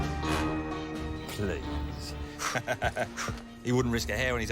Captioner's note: laughs